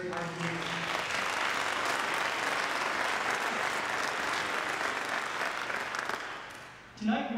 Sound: applause

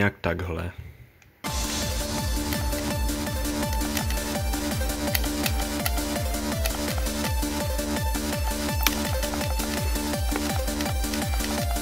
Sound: click

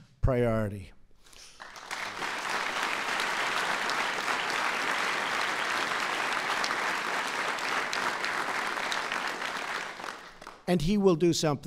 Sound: applause

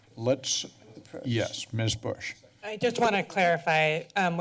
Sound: none

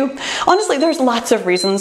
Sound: timer beeps

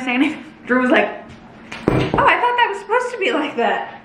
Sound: dropping fanny pack

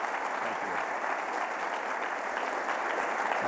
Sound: applause

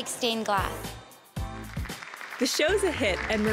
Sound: audience applause

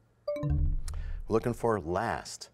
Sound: bell chimes, time expires

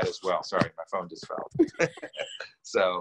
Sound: laughs

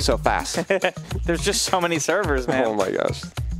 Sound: laughs

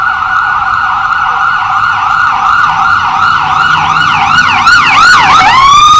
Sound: fire truck sirens sound

